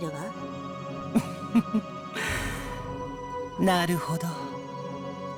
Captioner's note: chuckle